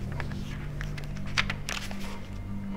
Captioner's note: pages flap